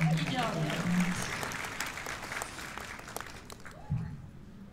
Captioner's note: applause